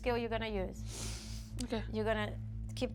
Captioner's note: sniffling